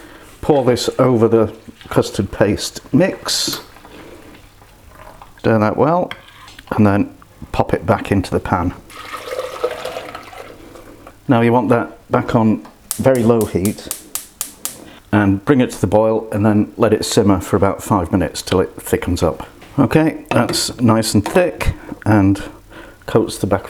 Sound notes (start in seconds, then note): 8.9 pouring